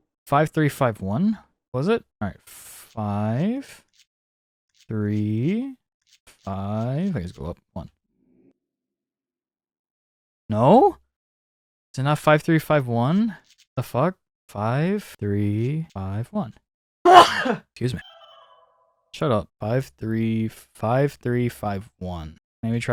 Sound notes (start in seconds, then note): 17.1 dog sneeze; 17.9 goofy ahh laugh